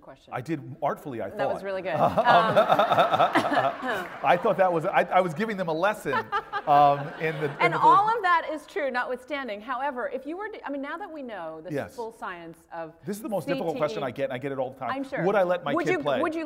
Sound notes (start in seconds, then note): 1.9 laugh